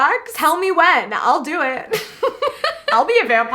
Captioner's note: laughs